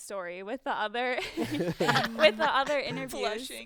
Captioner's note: group laughing